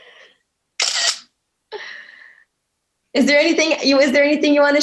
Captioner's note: camera shutter clicking